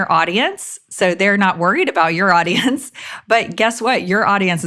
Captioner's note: chuckles